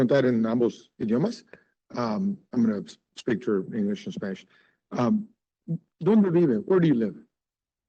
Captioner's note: speaking Spanish